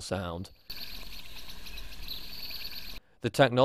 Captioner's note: birds chriping